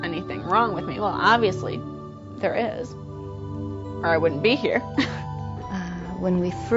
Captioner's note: chuckles